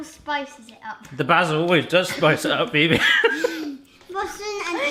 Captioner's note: laughs